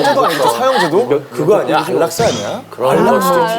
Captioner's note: flurry of guesses